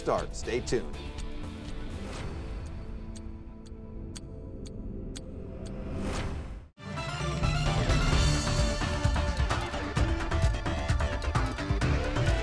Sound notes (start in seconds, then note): 1.6 clock ticking; 6.8 upbeat music